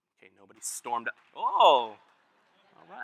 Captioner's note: applause